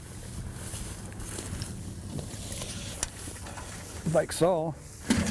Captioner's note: grass rustling; pipe thuds